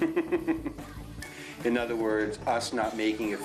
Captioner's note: laughing